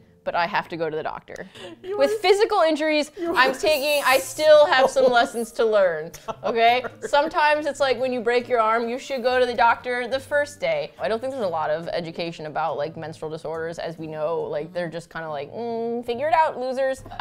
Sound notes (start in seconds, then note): 6.0 laughing